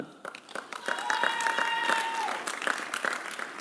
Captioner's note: applause